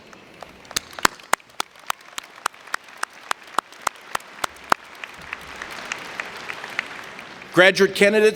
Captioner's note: applause